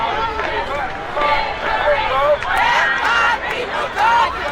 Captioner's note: crowd shouting